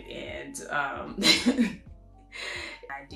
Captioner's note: laughs